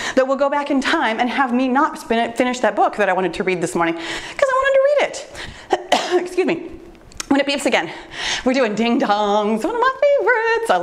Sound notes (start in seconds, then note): 5.7 coughs